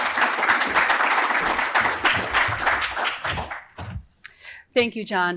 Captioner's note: applause